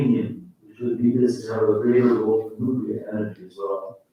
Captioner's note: faintly speaking